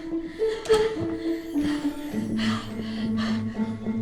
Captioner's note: frantic breathing